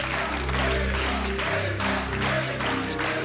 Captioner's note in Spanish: Aplausos